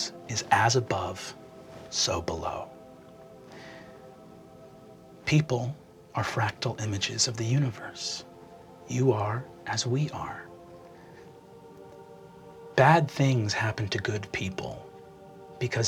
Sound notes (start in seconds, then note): none